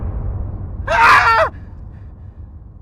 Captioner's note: scream